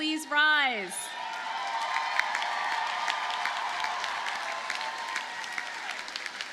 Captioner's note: audience cheers and applauds